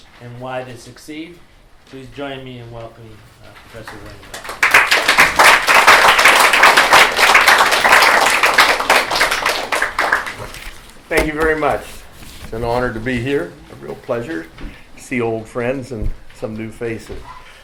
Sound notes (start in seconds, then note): 3.8 applause